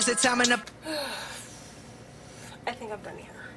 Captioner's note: deep sigh